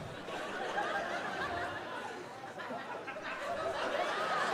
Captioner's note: audience laughing